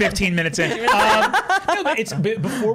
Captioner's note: laughing